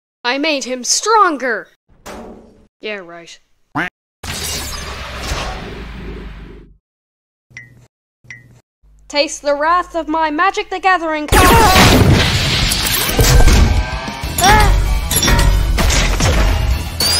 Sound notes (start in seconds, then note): 11.4 boom!; 15.7 hitting